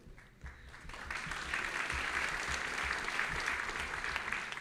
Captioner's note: audience laughing; audience applauding